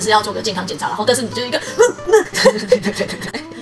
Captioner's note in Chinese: 哽咽